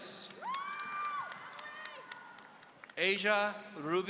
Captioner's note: audience cheering